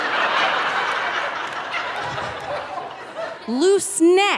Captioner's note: audience laughing